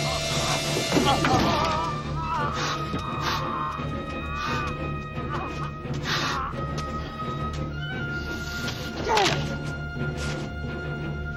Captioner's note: suffocated screams